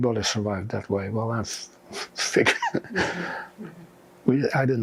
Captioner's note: laughing